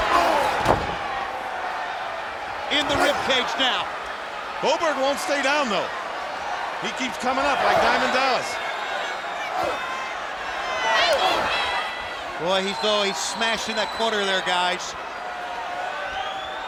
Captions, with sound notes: Oh. (thuds) In the rib cage now. Goldberg won't stay down, though. He keeps coming up like Diamond Dallas. (Goldberg grunting) Boy, he's though, he's smashed in that corner there, guys,